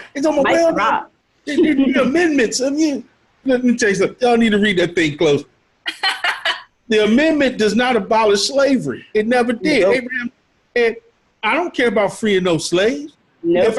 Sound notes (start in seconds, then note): 5.8 laughing